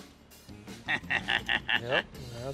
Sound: chuckles

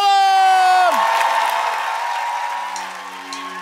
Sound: audience applause

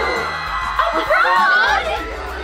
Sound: screams

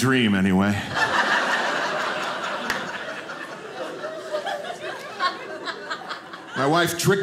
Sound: audience laughing

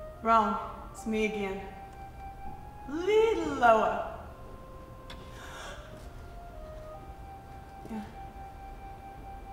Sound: gasps

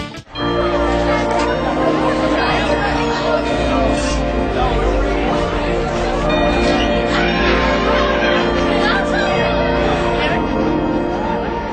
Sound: school bell

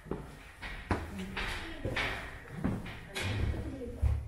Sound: footsteps echo

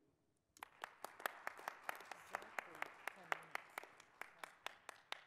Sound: audience applauds

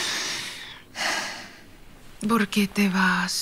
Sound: Juliet sighing

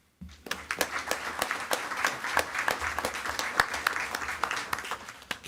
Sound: attendees clapping

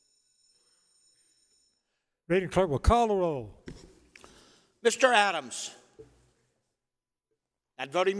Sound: bell ringing

